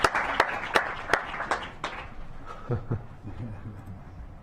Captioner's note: laughter